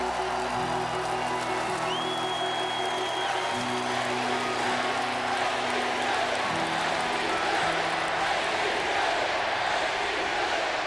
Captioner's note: crowd cheering